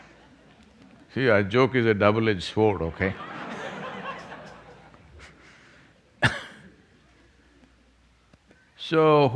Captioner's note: laughter; laughter